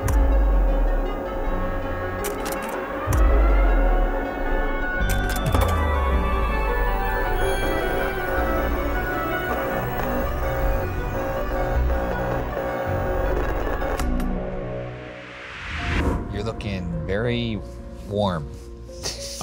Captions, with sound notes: (suspenseful music continues) (electric fizzing) (suspenseful music) - You're looking very warm. (laughing)